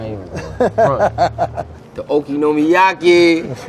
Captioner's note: laughs